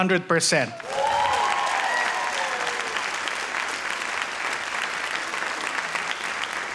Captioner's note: audience cheers and applauds